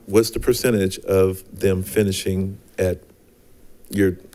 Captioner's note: none